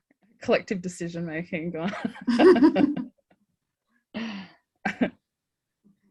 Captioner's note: laughs